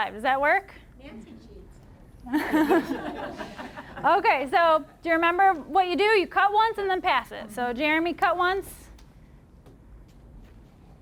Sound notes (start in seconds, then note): 2.3 audience laughing